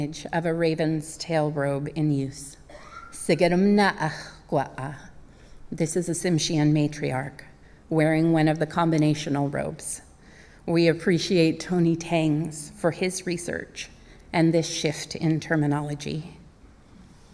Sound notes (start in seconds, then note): 8.1 speaking native language